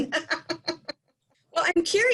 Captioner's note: laughing